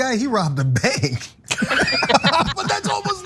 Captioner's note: laugh